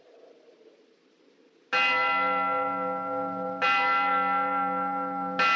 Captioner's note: tolling